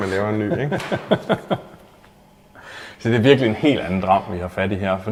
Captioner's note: hearty laugh